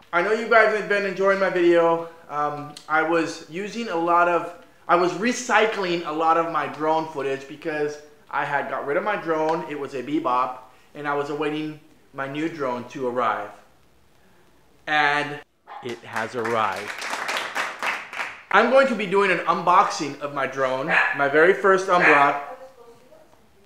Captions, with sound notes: I know you guys have been enjoying my videos, um I was using a lot of.. I was recycling a lot of my drone footage because i had got rid of my drone it was a bebop and I was a awaiting my new drone to arrive and it has arrived [Clapping] I'm going to be doing an unboxing of my drone it's my very first unvlog [ Dog Barking! ] My very first unvlog [ Dog Barking! ]